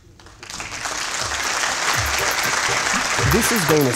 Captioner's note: applause